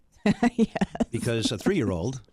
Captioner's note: laughs